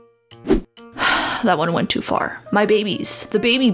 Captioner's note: sighs